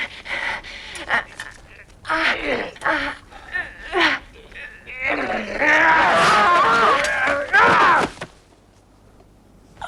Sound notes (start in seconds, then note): 6.0 both shouting; 7.7 man groans